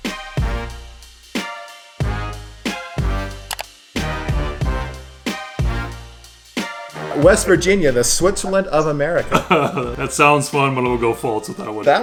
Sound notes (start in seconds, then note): 0.0 upbeat music; 3.5 clicks; 9.2 laughing